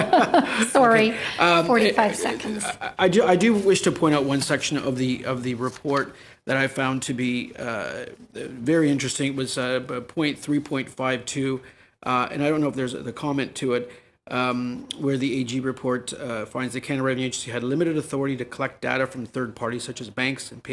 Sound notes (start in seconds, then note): 2.0 laughter